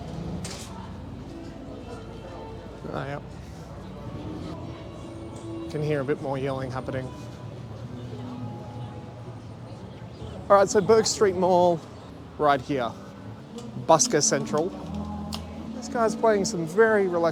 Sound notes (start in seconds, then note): 3.7 off camera yelling expletives